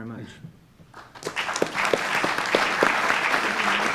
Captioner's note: audience applauds